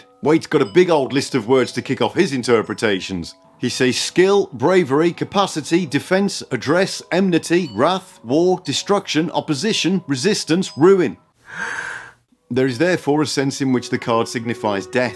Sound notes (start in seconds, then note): 11.4 deep breath